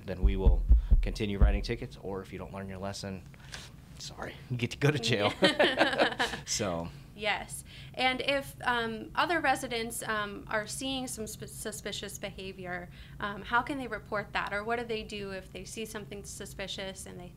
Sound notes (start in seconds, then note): 5.2 both laughing